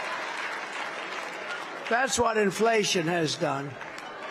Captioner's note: applause